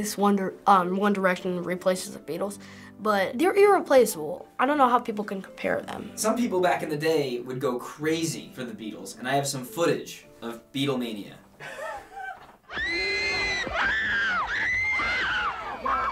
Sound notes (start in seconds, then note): 11.6 Finebros snickers; 12.7 raucous screaming